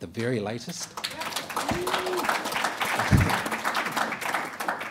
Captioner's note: applauding